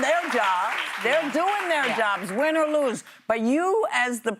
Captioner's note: applause